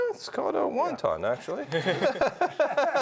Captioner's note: all laughing